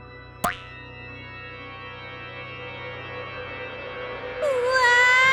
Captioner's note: pop